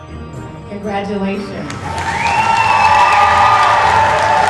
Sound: applause

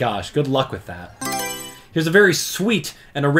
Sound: Mario Selection Sound

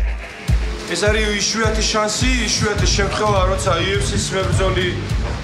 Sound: speaking foreign language

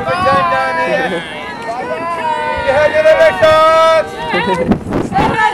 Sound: crowd cheering

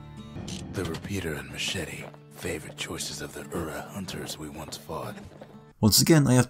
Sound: in-game audio

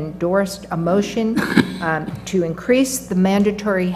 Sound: cough

